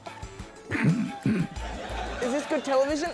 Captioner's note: grunts